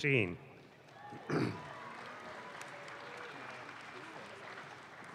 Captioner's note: audience claps